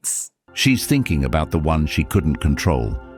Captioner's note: AI Voice